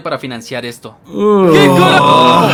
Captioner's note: growls in disgust